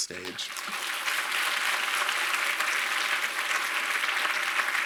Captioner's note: audience applauds